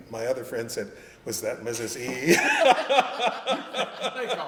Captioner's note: laughter